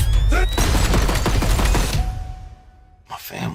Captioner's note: gun shots